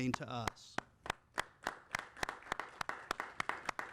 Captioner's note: applauding